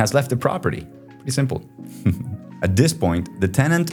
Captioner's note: chuckles